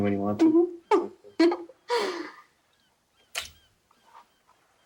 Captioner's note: both laughing